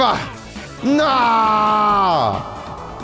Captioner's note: voice echoes